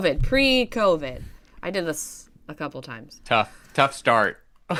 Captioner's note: laughter